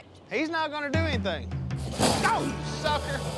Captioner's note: growling